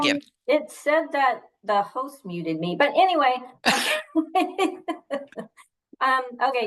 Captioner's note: laughs